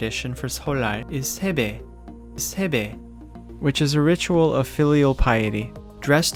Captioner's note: speaking in Korean language